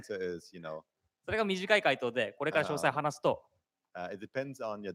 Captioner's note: speaking japanese